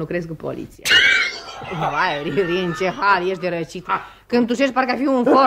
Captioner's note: coughs